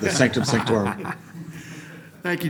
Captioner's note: laughter